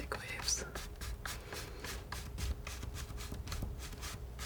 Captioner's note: scratching